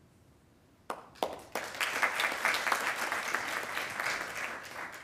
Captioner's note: attendees applauding